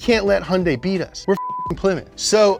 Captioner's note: beep